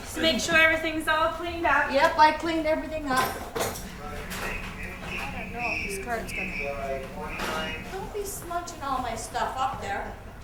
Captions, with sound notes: JUST TO MAKE SURE EVERYTHING'S ALL CLEANED UP. YUP, I CLEANED EVERYTHING UP. (VOICES ON RADIO) DON'T BE SMUDGING ALL MY STUFF UP THERE.